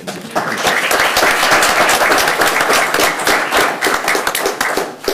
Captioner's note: everyone applauding